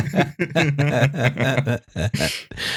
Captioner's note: laughter